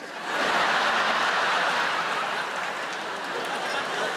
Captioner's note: audience laughing